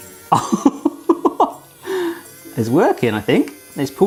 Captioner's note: laughs